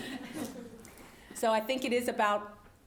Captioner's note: laugh